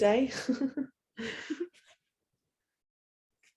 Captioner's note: laughs